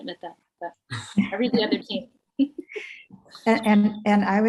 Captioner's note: chuckles; laughs